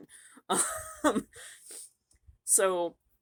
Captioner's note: chuckles